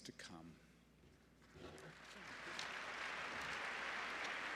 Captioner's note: applause